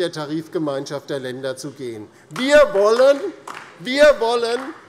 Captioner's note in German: Vereinzelter Beifall DIE LINKE